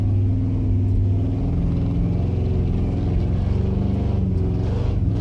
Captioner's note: engine sound